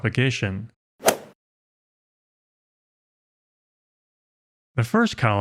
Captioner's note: golf ball hit sound effect